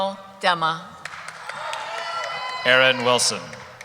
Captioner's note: cheering